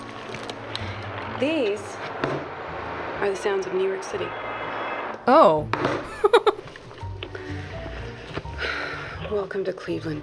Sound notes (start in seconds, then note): 6.1 chuckles